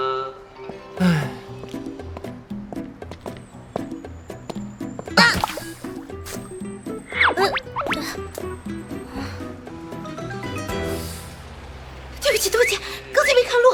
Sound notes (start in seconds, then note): 0.9 sighs